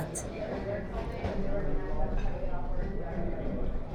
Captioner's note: people talking in a cafe